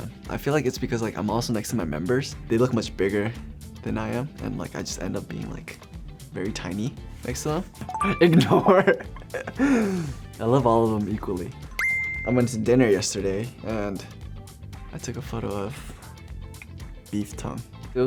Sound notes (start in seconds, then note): 7.9 beeps; 8.3 laughs; 11.8 beeps